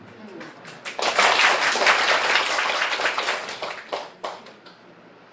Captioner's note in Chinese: 眾人鼓掌